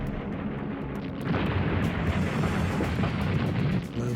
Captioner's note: rumbling motors; explosions